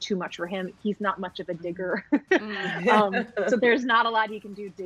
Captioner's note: laughs